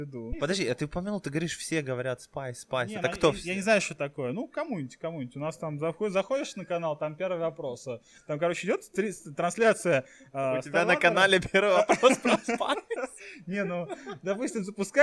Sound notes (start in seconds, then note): 11.3 laughing